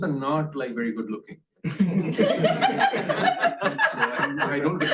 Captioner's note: laughter